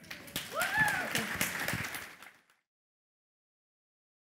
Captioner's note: applause